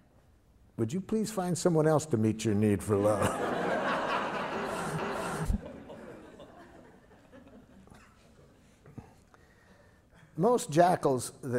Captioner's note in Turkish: Gülüşmeler